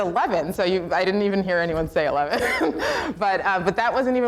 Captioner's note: laughs